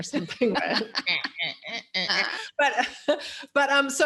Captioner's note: laughs